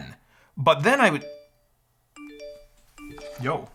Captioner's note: phone dings repeatedly